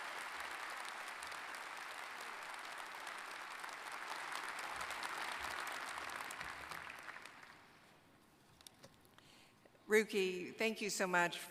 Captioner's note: applause